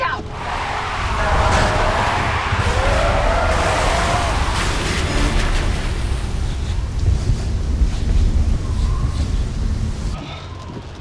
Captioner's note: tires screeching